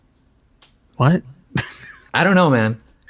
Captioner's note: laughs